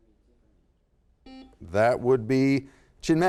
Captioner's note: buzzer sounds